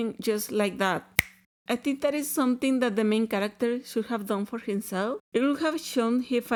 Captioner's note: finger snap